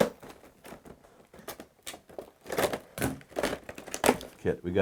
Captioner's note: plastic ripping